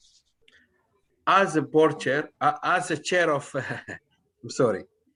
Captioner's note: laughter